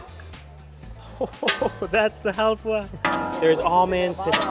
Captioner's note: laughing